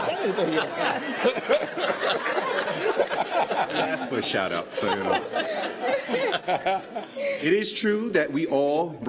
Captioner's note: laughter